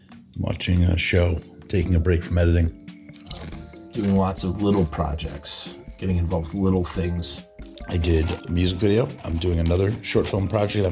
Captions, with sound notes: watching a show, taking a break from editing, [Potato chip crunching] Doing lots of [Potato chip crunching] little projects, getting involved with little things. [Potato chip crunching] I did a music video. [Potato chip rustling] I'm doing another short film project. [Potato chip rustling]